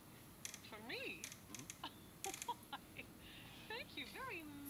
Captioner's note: laughs